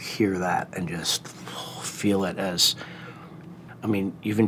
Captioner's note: groans